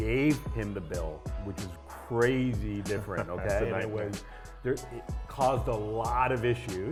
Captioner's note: laughs